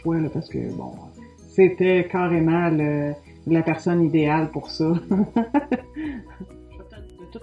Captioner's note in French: rire